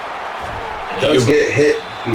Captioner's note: crowd Noises